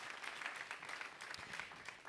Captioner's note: applause